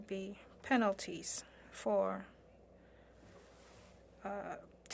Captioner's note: speaking French